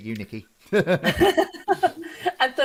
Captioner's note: laughs